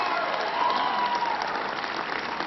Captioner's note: applause